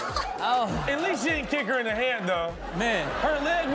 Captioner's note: audience exclaims; laughing